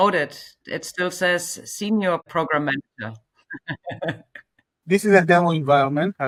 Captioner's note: chuckles